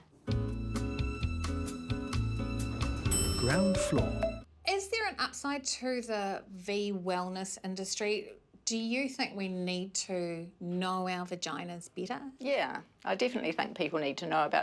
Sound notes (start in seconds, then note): 0.4 elevator music; 3.0 elevator dings